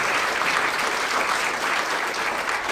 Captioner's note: applause